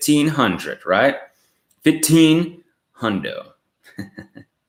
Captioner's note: laughs